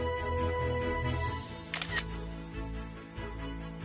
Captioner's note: camera shutter sound